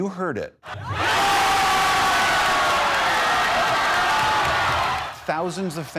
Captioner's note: cheering